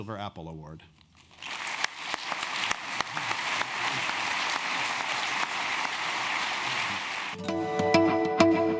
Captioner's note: applause